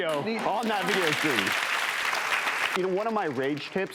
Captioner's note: applause